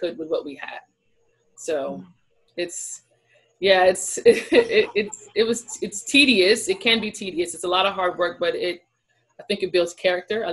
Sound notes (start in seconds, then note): 3.7 laughs